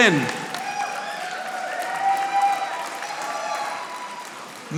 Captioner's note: audience applauding